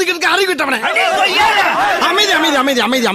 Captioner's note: audience shouting